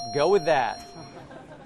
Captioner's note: laughter